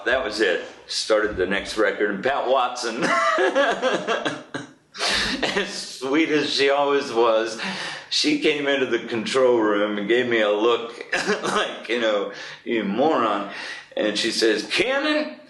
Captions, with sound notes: That was it. Started the next record Pat Watson [laughs] and sweet as she always was. She came into the control room and gave me a look like, you know, you moron. And she says, "Kiernan